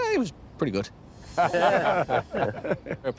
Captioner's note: laughter